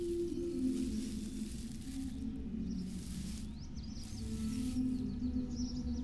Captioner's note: rustling grass